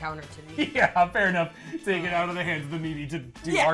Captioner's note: laughs